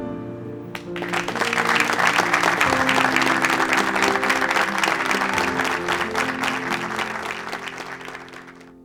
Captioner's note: applause